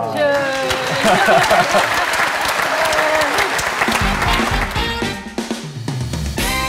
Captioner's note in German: Applaus